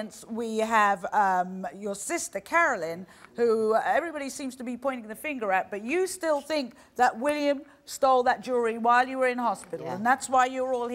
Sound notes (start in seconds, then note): none